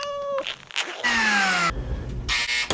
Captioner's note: cat meowing; bag zipping; machines whirring and buzzing